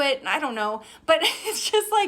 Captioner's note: laughs